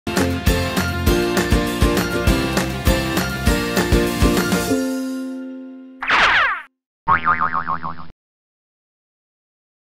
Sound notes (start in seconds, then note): 0.2 whimsical music; 6.0 object ricocheting; 7.1 object boings